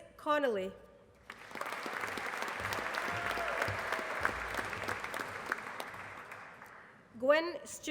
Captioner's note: applause